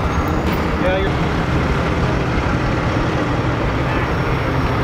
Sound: engine rumbles

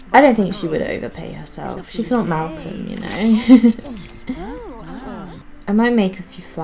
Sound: giggles

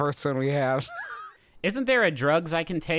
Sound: laughing

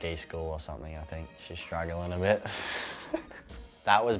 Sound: laughs

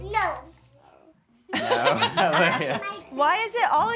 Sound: laughs

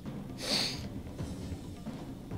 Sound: snff

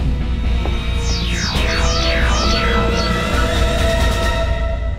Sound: electronic sounds

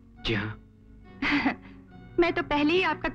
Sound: chuckles

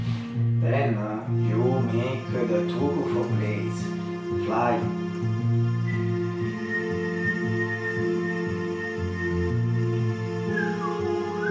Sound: whistle

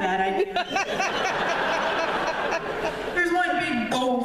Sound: laughter

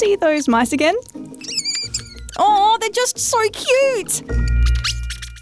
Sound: mice squeak

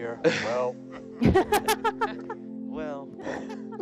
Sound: group laughs

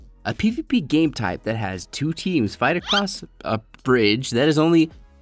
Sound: banana peel sound effect

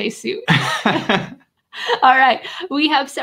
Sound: both laughing

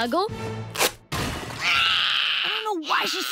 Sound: crying

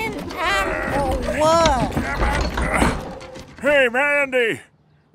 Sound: soundbite of cannon rolling; grunting, effort

